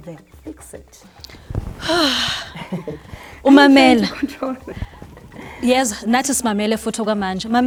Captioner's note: heavy sigh